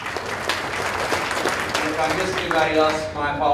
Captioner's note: audience applauding